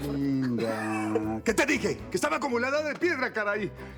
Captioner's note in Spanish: risas